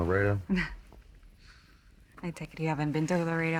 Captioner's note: Marisol chuckles